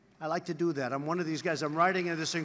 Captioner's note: applause